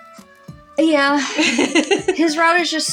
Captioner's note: laugh